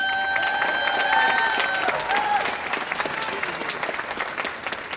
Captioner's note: audience applauding